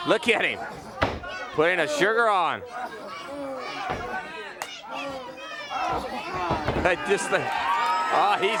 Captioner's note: crowd chatter